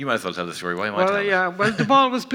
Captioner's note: laughs